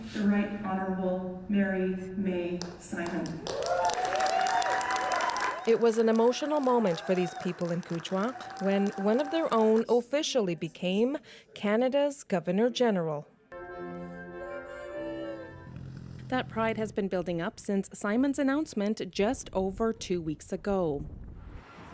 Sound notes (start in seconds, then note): 8.0 applause